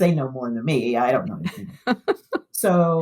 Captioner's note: laughter